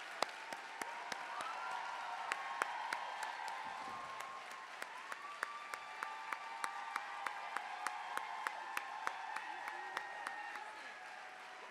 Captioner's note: applause / Cheers